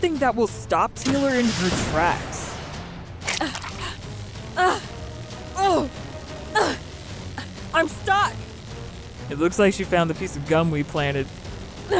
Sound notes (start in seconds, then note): 3.3 grunting